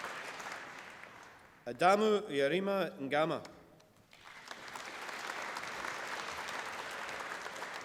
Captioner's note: applause